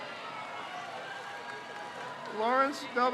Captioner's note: crowd cheers